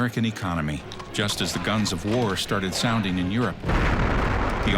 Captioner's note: explosion